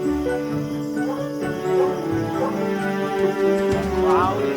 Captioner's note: cheerful music; barking